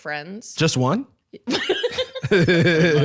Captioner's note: laughs